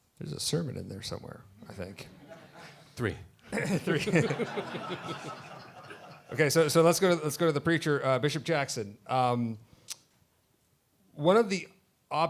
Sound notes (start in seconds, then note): 5.3 laughter